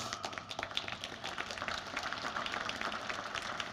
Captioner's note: applause